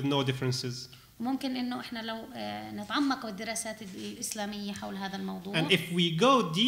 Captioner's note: speaking arabic